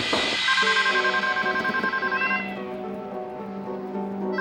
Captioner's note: phone ringing